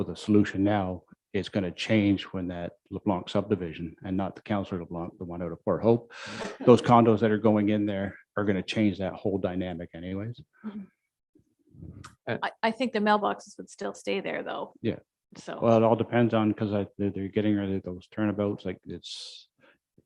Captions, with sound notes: even if you come up with a solution now is gonna change when that belong to subdivision and not the (murmurs) or the one (murmurs). (all chuckling) Those condos that are going in there are gonna change that whole dynamic anyways. - I think the mailboxes would still stay there though. - Yeah. - Well, it all depends on, 'cause they're getting ready with those turnabouts like it's,